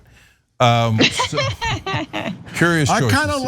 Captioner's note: laugh